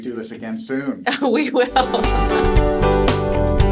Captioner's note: laughs; upbeat music